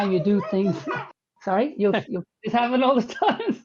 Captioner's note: children's voices in background